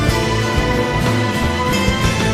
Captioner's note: sobs